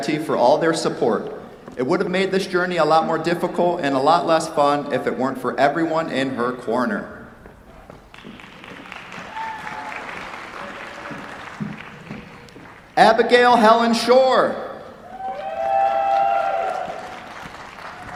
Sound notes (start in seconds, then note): 8.1 applause; 15.0 cheers, applause